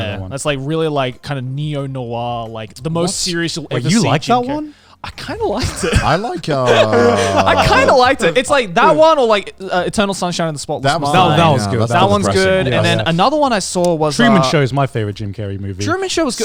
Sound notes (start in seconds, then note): 6.6 everyone laughs